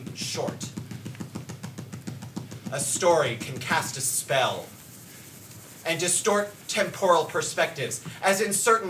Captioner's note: dancer's hands tap